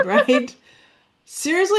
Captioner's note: laughs